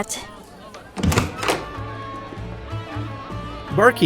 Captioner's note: door opens